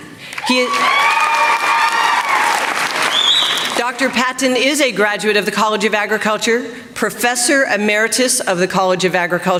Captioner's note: applause